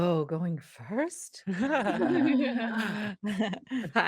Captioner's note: laughs